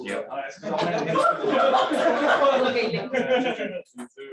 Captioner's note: laughter